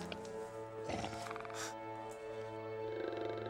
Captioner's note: snarling